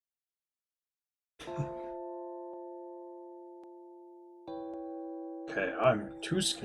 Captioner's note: laughs softly